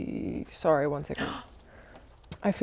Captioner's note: gasp